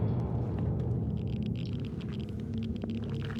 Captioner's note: geiger counter clicking